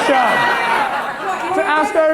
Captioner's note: audience laughter